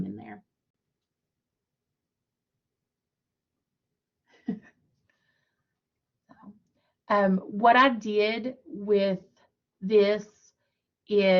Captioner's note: laughter